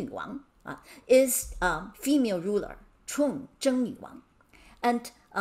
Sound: speaking in Mandarin

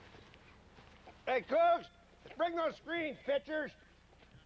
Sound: shouting

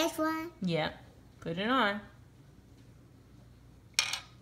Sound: voiceover

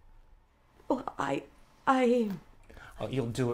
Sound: stammering

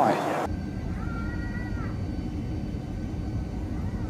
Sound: engine roaring

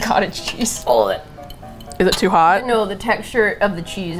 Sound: straining

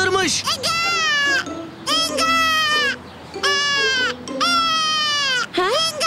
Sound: baby cry

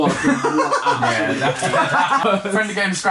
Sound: laughing

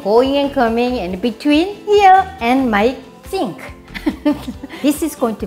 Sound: chuckling

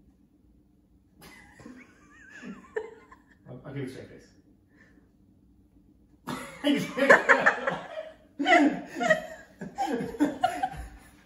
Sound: laughter

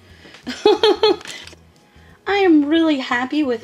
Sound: laughing

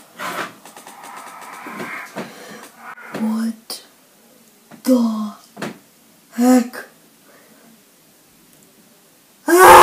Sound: ghostly wind; screaming

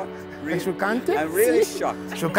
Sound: speaks Italian

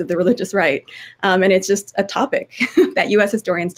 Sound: chuckling

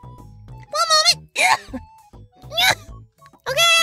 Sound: tries to cough up hairball

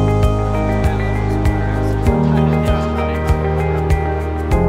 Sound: crowd chattering

